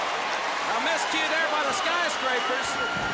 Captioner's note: crowd cheering